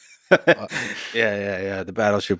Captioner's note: Lex laughs